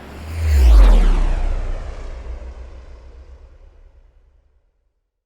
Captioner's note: rocket engine roaring